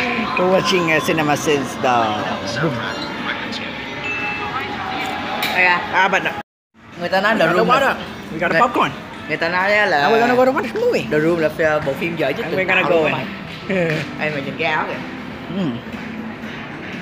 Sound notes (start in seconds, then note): 5.2 talking